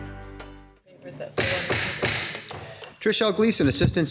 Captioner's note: gavel pounding